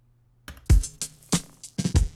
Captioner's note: space bar clicks; gentle hip hop music